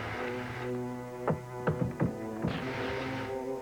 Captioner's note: knocks